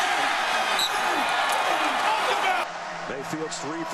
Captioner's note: whistles